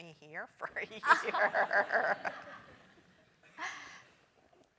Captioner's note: laugh